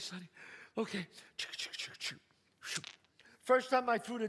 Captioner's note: dice sounds